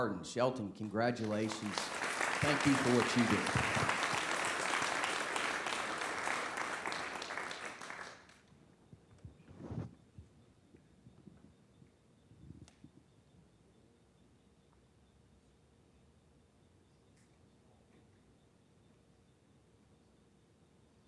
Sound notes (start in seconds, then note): 9.0 appuse